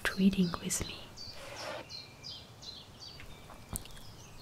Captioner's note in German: Buchgeräusch